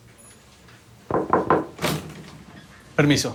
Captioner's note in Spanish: Toques en la puerta